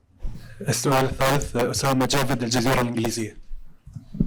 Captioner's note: in Arabic